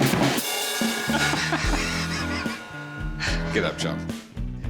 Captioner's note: laughs